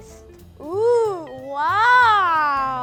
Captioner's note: ooing